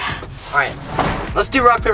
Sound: air whooshing

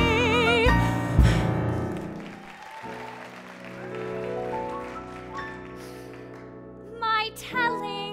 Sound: applause

